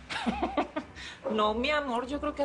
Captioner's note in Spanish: Risas